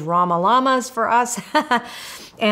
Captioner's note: laughs